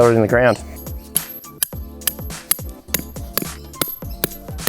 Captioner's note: taps on peg